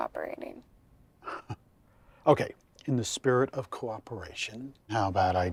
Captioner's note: laughs